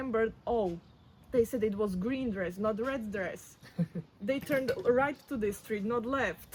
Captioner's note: laughs